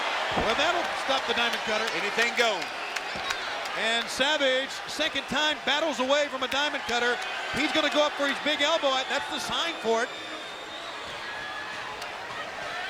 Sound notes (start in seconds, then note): 0.3 applauding